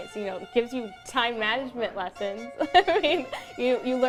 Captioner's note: laughs